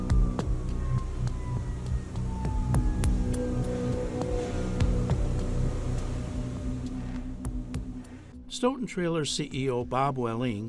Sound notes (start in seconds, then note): 0.0 dramatic music; 0.1 devices power down; 7.3 dramatic music continues